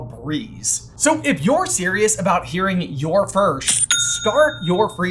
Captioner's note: cha-ching!